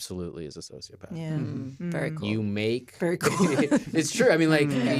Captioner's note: laughs